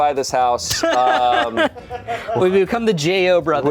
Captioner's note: laughs